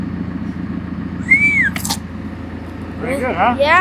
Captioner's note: whistling